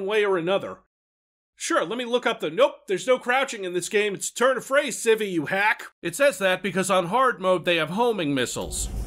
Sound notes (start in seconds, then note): 0.8 silence